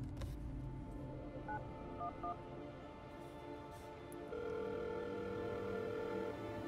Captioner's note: phone dialing and ringing